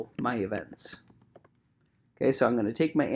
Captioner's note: keyboard clicking